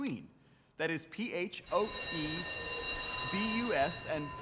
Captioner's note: school bell rings